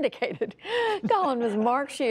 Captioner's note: laughter